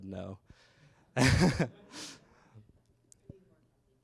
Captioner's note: laughs